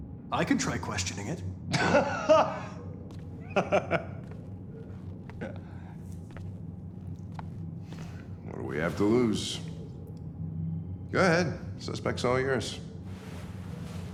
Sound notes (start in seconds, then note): 3.3 laughs